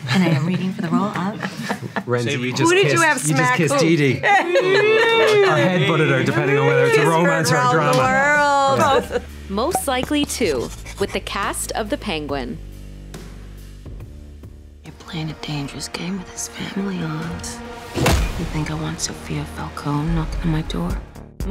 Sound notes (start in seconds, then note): 4.2 laughing